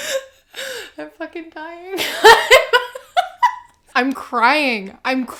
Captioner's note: laughter